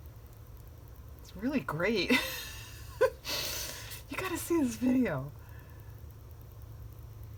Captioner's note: laughs